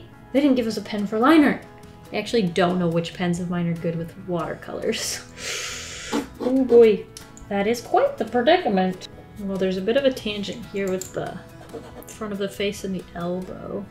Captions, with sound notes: They didn't give us a pen for line-art! I actually don't know which pens of mine are good with watercolors. [Sharp inhale] Oh boy. That is quite the predicament. Well, there's a bit of a tangent here with the... front of the face in the elbow.